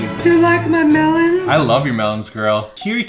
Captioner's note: breathy voice